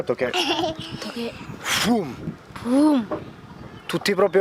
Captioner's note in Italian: imita suono sorpresa improvvisa